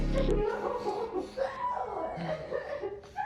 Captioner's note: Ema crying